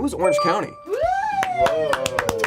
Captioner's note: group cheers; group claps